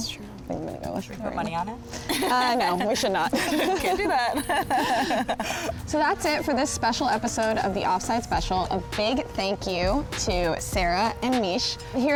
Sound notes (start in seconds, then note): 2.0 laughs; 2.1 all laugh; 11.1 mid tempo music